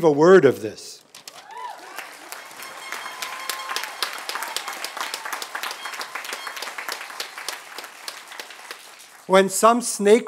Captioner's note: applause